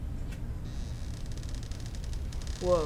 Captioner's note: squeak